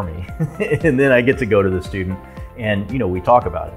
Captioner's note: laughter